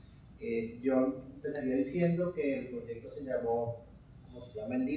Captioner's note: speaking in Spanish